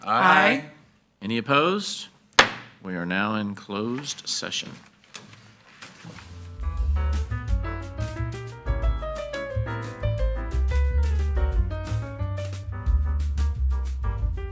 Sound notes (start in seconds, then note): 2.4 gavel bangs; 6.5 upbeat music